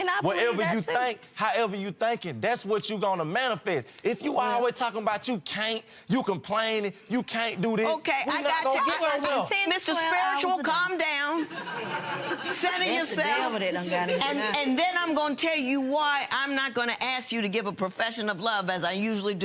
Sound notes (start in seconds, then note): 11.3 laughter